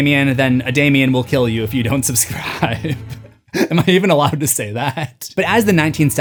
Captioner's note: laughing